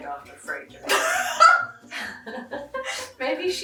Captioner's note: laughing